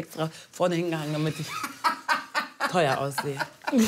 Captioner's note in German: Er lacht; Lachen